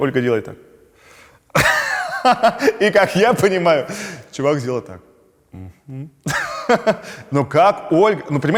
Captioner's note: laughs